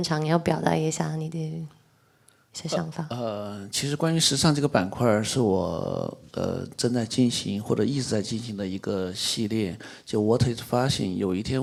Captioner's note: speaks in Mandarin